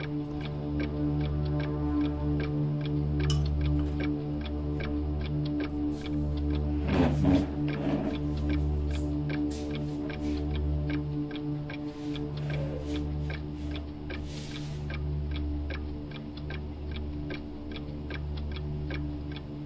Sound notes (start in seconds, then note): 6.7 chair squeaking; 6.9 clock ticking continues; 16.0 clock ticking continues